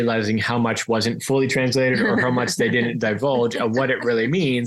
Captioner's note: laughs